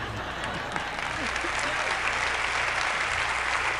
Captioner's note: laughing; applauding